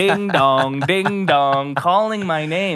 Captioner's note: laughing